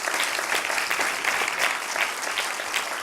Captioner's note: clapping